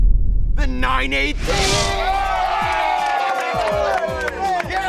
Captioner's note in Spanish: aplausos